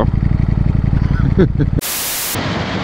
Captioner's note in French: rire